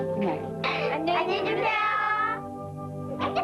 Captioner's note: Korean